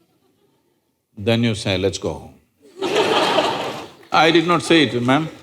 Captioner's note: laughter